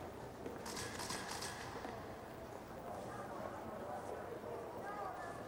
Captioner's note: camera shutter clicking